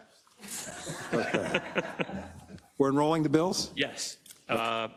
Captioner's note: laugh